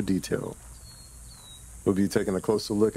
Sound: birds chirping; cicadas buzzing

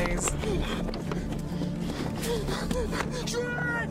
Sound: Chester panting

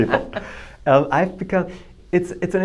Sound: laughs

